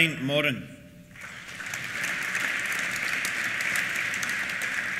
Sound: applause

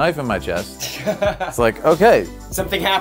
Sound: laughing

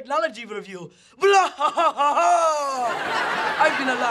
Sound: laughing

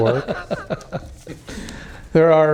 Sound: laughter

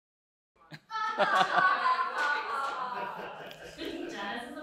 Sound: people laughing

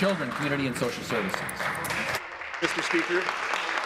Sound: some Applause

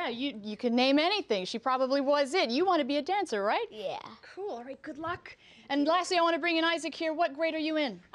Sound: none

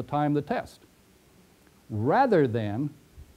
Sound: pause

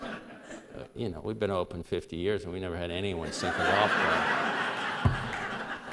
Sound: laughter; laughter

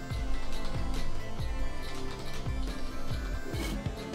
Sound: typing

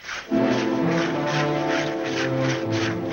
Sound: saw blades scraping; dramatic music

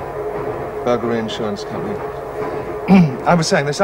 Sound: clears throat

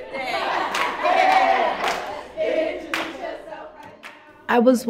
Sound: group laughs

